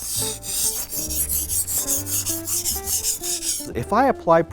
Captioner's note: knife scrapes